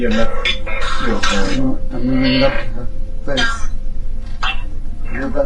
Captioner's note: group murmuring